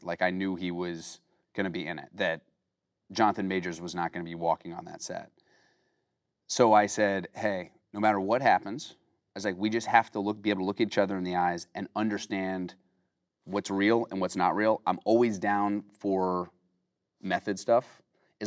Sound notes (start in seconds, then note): none